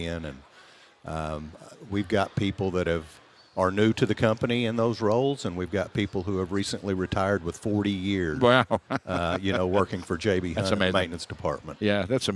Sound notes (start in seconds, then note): 8.4 laughs